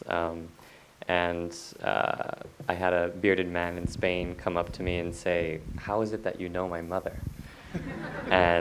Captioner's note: audience laughter